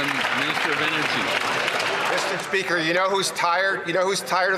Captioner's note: applause